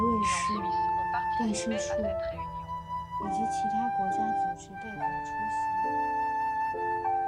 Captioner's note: French